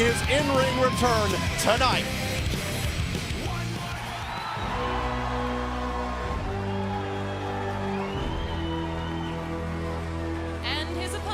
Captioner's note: crowd cheering